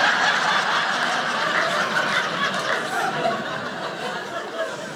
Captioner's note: audience laughing